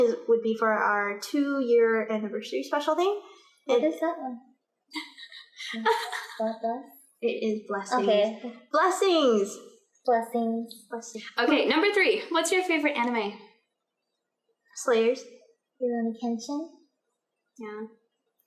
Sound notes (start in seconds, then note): 5.8 laughter